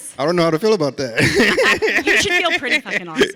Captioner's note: laughs